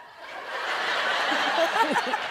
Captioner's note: crowd members laughing; crowd laughing hysterically; Ellen laughing; laughing; crowd laughing hysterically